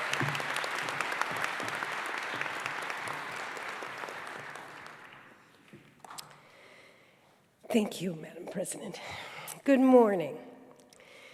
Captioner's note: applause